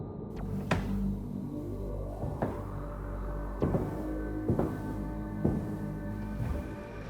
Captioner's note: eerie music; walking footsteps